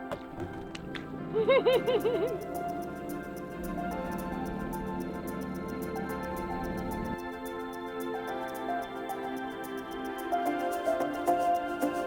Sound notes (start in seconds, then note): 1.7 laughing; 3.4 gentle music